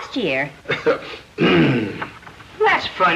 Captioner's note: chuckles; clears throat